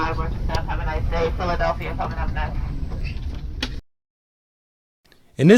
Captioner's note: female announcement